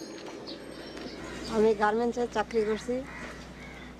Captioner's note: non-english speech